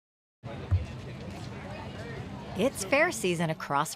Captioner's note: crowd chattering faintly